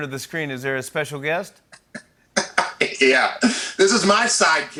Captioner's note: chuckles